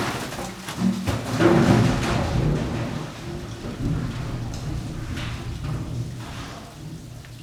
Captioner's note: crashing and rumbling